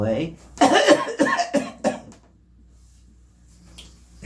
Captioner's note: coughs